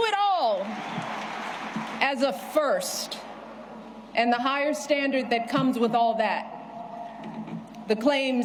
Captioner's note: applause